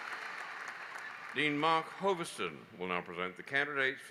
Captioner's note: applause